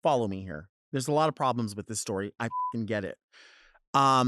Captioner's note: beeps